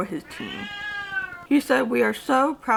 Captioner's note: cat meowing